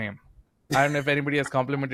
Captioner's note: chuckling